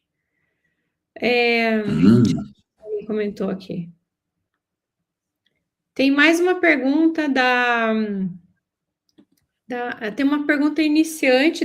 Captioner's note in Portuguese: limpando a garganta